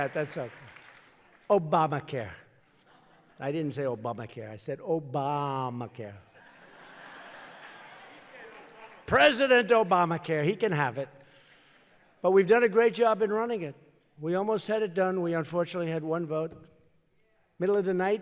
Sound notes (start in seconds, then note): 6.3 laughter